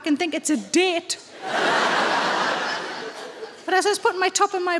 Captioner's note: audience laughs